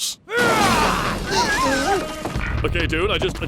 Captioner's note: shocked Cries